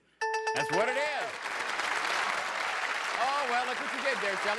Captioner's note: applause